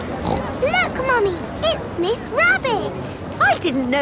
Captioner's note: snorts